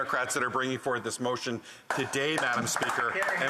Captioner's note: some Applause